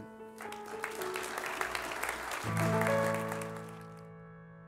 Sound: audience applauding

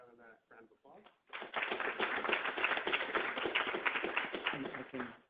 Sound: classroom applauds

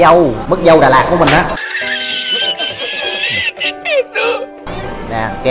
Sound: laughing

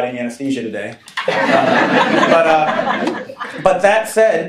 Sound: laughing

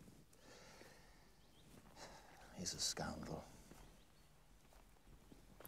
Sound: sighs

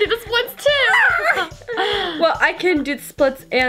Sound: screaming

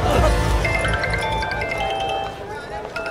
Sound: phone rings

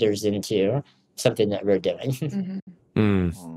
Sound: chuckles

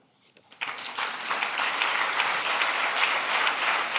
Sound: applause

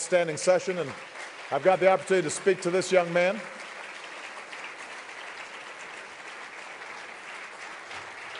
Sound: applause

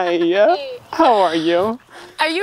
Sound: chuckling

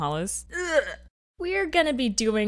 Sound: Carmilla gags

